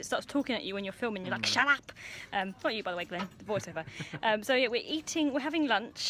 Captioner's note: he laughs